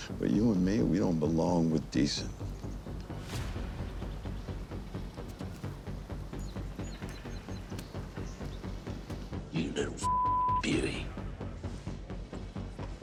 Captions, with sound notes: we don't belong with decent. (ominous music) - You little (beep) beauty.